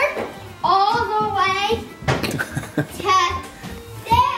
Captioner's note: laughs